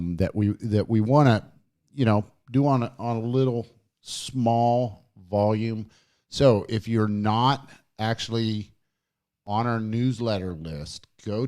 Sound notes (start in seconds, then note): none